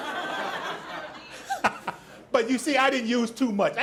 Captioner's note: audience laughs